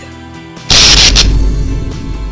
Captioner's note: electricity sound